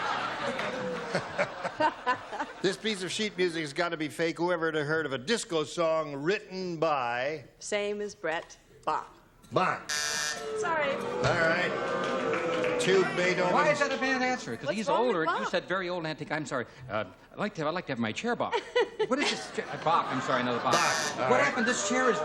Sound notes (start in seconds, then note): 0.0 laughter; 9.8 buzzer; 10.4 booing; 18.4 laughter; 20.7 buzzer